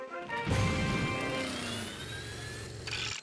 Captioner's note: engines revving